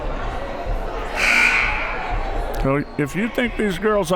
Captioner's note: buzzer